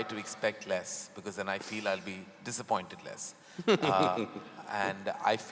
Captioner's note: Sadhguru laughs